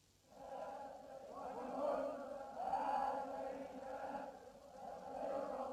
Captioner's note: crowd chanting in Arabic